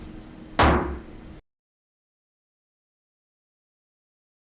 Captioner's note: gavel bangs